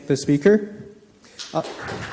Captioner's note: audience applauding